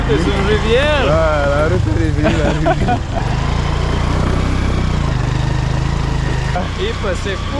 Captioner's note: speaking French; laughs